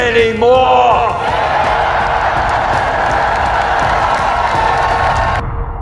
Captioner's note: huge applause